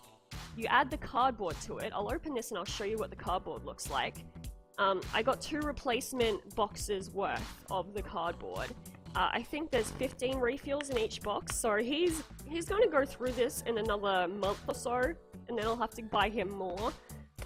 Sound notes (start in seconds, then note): none